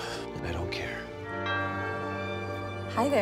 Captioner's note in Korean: 초인종 소리